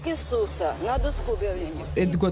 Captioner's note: speaking Russian